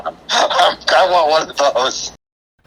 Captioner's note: laughing